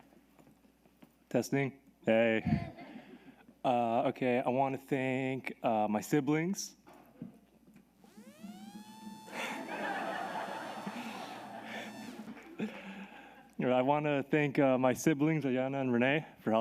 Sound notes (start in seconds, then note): 9.4 everyone laughs